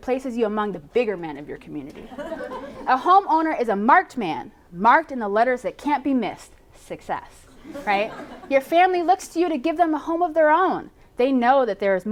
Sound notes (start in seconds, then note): 7.5 laughter